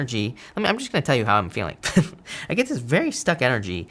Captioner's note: laughs